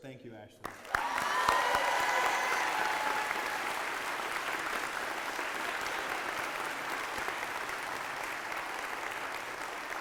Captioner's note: applause and cheers